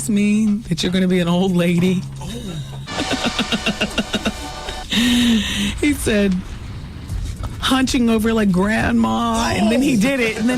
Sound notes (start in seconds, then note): 2.9 laughter